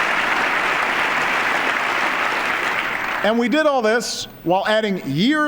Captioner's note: applause